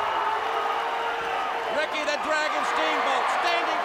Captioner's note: crowd cheering